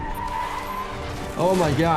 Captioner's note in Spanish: chirrido de frenos